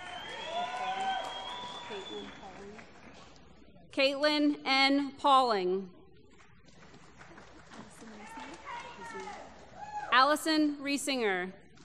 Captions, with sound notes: [ Applause ] Katelyn N. Poling. [ Applause ] Allison Reisinger.